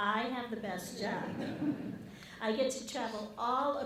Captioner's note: audience laughing